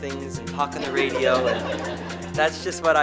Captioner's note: audience laughter